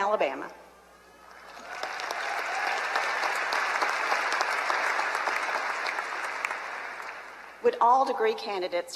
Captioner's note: applause